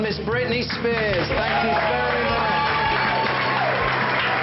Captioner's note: group cheering